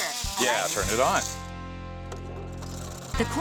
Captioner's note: cutter starts up